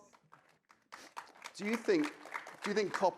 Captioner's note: audience applauding